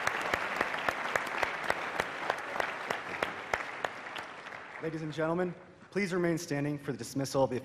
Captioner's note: applause